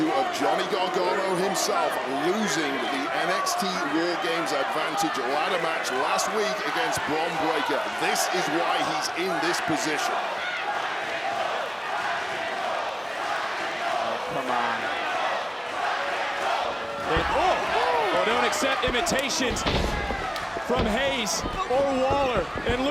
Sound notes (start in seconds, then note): 11.0 crowd chanting